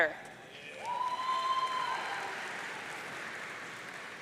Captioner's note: audience cheering